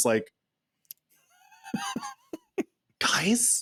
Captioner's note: laughing